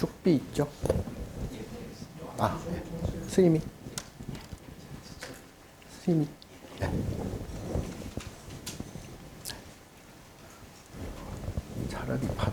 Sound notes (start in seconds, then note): 2.0 assistant speaking Korean; 2.0 speaking Korean